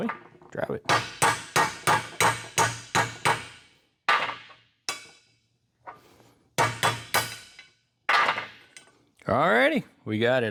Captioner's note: clanging